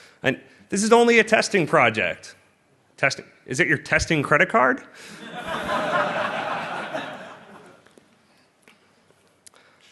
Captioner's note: laughter